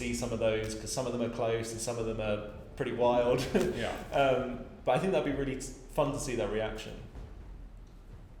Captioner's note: laughs